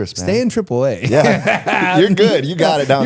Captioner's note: both laughing